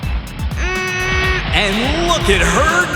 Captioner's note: grunting; cheering